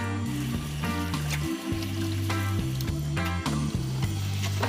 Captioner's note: oil sizzling gently; warm relaxing music continues